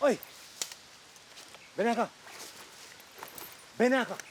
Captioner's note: speaking spanish